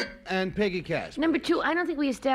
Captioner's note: buzzer sounds